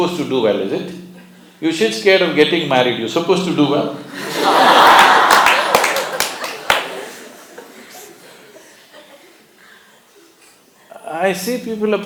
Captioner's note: laughter/ Applause